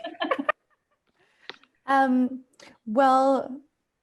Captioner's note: laughter